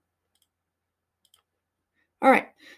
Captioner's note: mouse clicking